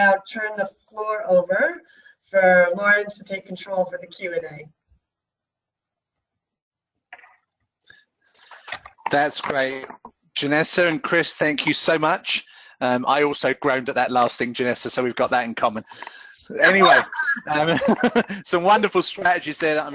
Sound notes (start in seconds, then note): 16.8 laughter